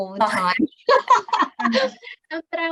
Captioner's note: laughing